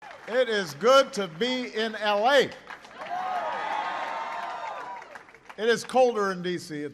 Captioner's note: applause